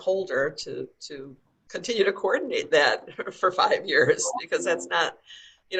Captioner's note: laughing